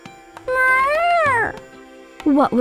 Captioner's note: meowing